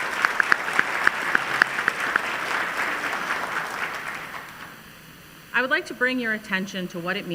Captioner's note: applause